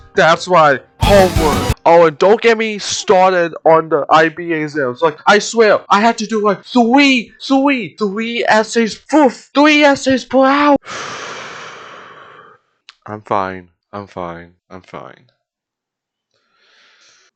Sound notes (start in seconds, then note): 10.8 exhale